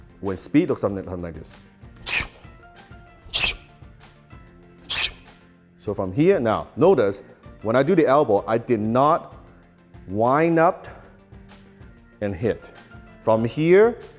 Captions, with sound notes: With speed it looks something like this. (whoosh) (whoosh) (whoosh) So if I'm here, now notice, when I do the elbow I did not wind up and hit. From here,